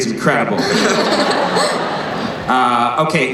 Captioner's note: laughing